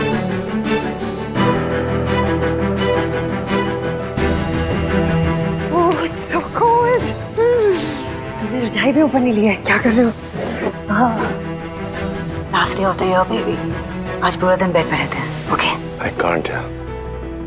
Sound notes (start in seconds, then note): 10.6 Ananya sucks teeth